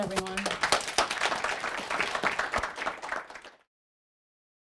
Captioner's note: audience clapping